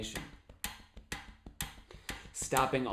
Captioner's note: tapping and ticking sound